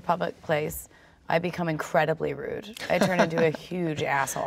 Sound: laughs

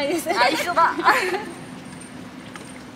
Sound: laughs

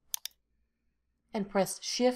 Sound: mouse clicks

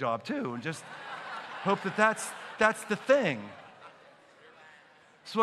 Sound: laughter

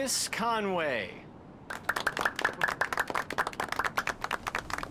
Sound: applause

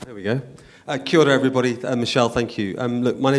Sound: speaks in a foreign language

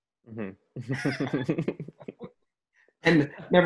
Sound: both laugh

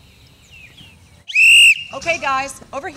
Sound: whistle blowing

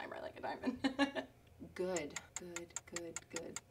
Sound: laughs; clock ticks

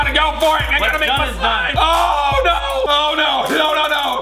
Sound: screams

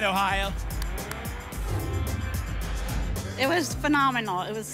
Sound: whoosh

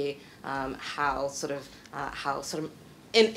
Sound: stuttering

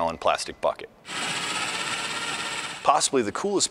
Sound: electric drill

